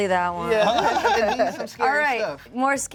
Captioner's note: laughs